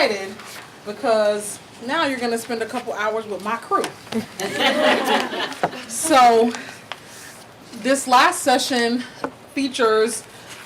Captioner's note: laughing